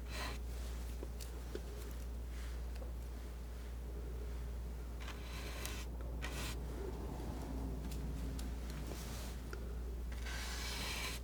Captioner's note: scratching